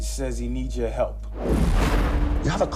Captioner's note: whoosh